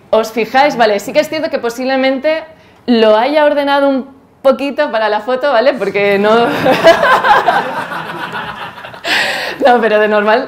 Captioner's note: laughs